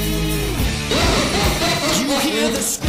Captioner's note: malicious Laughter